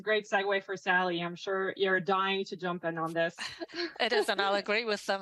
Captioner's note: laughs